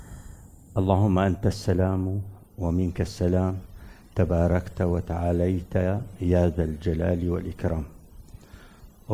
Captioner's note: recites a prayer in Arabic